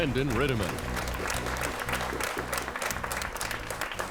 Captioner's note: clapping